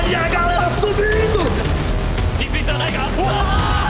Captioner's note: gunshots